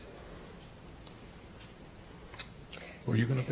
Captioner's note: none